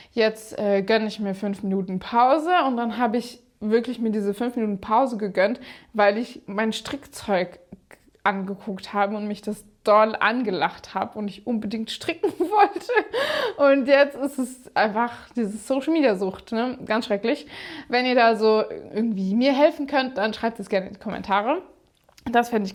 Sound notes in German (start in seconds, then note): 12.2 gelächter